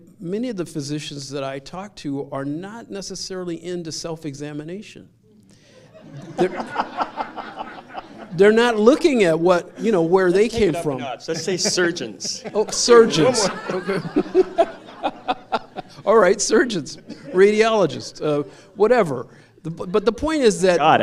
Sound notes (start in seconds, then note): 5.8 laughter; 13.5 laughter